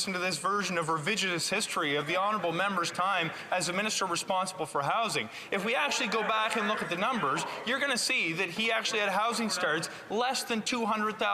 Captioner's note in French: voix de l'interprète